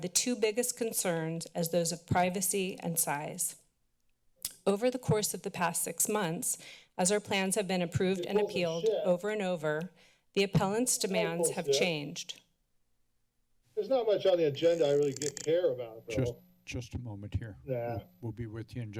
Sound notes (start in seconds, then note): 4.2 clicks tongue; 14.5 mic sounds